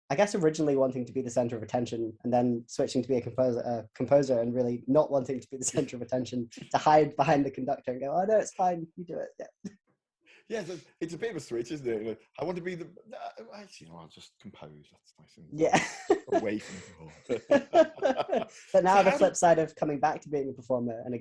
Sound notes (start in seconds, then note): 15.7 laughing; 17.6 both laughing